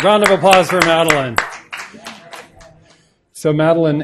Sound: applause

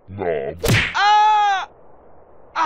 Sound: screaming

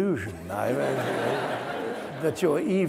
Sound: audience laughs

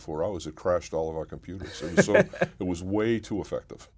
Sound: laugh

